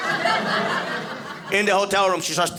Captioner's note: audience laughing